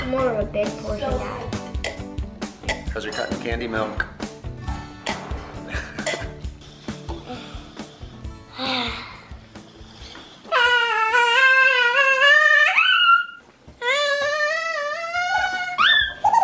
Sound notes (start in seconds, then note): 2.1 slurping; 8.4 sighs; 12.1 yells; 13.9 sped-up yelling